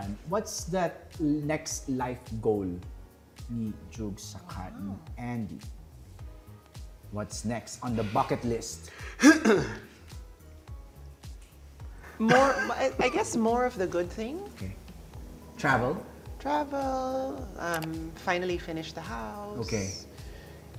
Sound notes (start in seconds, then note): 9.1 clears throat; 10.1 upbeat music playing